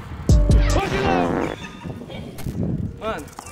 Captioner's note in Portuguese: Risadas